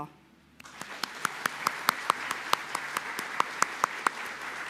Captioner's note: audience claps